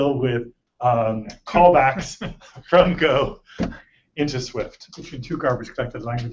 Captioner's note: laughter